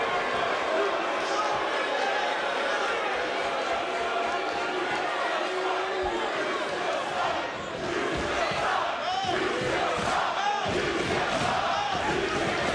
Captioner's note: crowd chanting